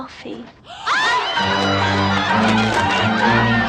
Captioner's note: all screaming and clamoring